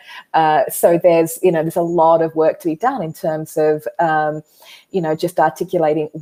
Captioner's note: none